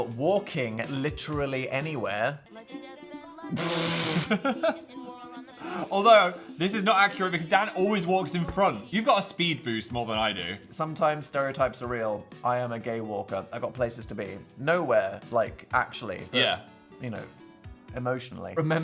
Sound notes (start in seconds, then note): 4.0 both laughing; 4.2 whimsical music